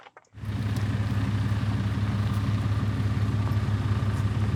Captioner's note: engine rumbling